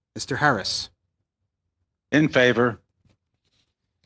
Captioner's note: speaking French